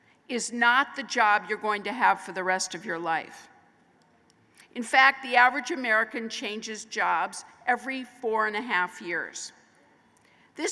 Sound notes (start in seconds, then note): none